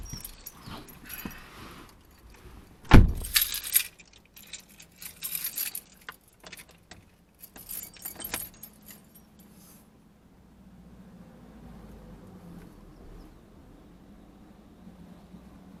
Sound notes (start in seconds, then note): 2.8 car door closing; 8.0 keys inserting into car